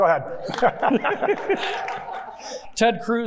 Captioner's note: everyone laughing; audience members clapping